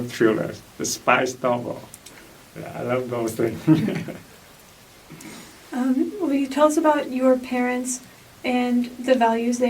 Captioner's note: laughs